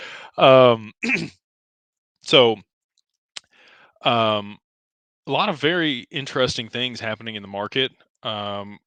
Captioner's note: clears throat